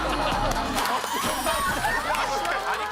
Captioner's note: warm clap